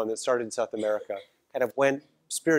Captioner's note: cough